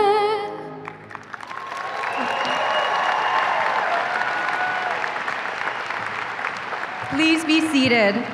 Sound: applause and cheering

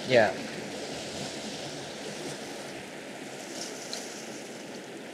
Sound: water rushing

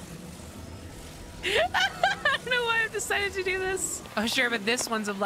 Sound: laughing

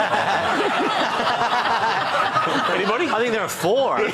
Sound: laughter

